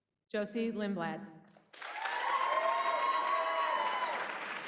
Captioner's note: applause